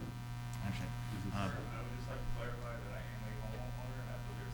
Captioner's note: speaking off mic